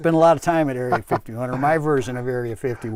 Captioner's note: laughs